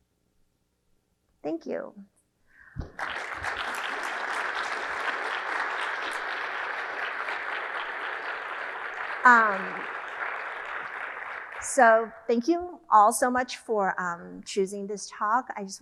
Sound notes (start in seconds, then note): 3.0 audience clapping